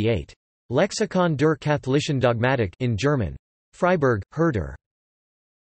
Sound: in German

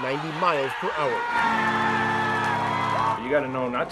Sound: crowd cheering

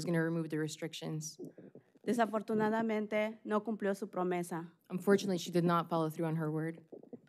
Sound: speaking spanish

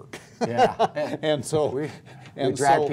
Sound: laughter

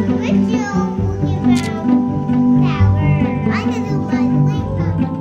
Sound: camera snaps repeatedly

